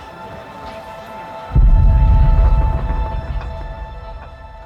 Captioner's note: thunder rolling